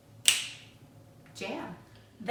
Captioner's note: fingers clicking